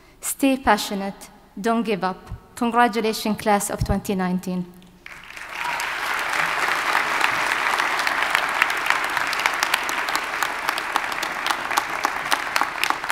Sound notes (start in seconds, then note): 5.0 audience applauding